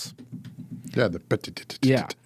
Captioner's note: mimics drumming